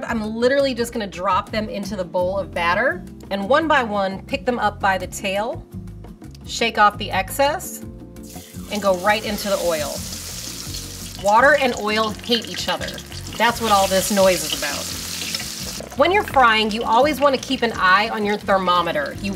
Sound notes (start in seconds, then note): 10.2 cooking oil simmering; 15.1 cooking oil simmering